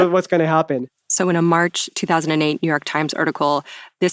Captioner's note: laughs